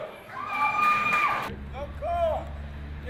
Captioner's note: people Cheering